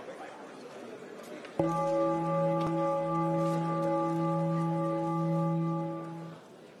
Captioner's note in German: Gong